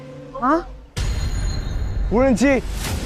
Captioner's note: drone